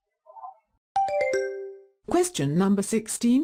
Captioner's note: question ding